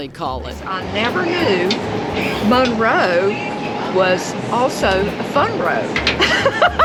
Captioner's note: laughs